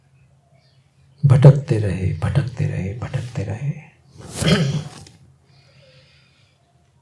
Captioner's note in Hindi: हंसी